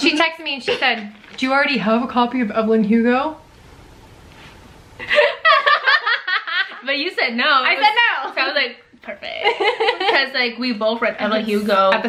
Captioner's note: laugh